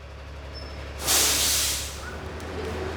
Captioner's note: cars braking sound